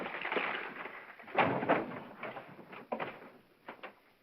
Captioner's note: paper rustling; drawer clattering